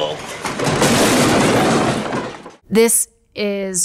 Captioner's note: shelf crashes